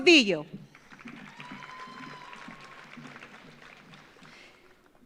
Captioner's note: audience applauds